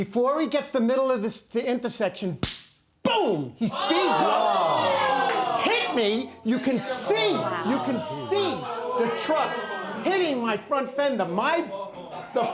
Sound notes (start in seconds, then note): 2.4 claps; 3.7 audience clamoring